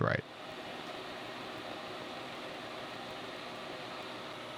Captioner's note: lathe whirring